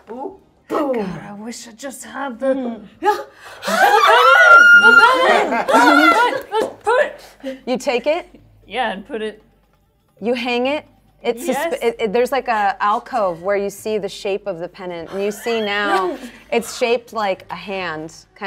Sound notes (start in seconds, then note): 3.6 screaming